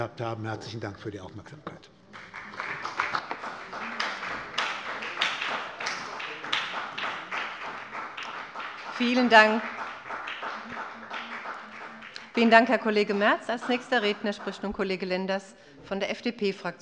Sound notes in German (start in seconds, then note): 3.5 Beifall bei der SPD